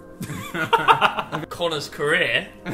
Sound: group laughs

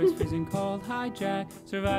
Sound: laughs

